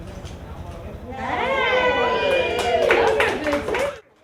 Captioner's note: crowd